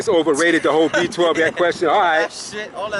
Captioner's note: laughs